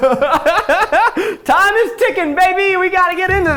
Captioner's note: laughs